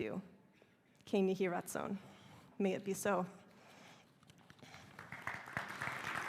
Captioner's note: speaking hebrew; applause